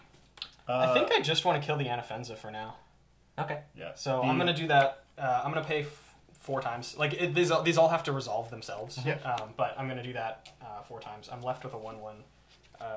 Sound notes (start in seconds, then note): none